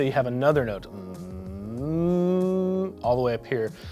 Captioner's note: humming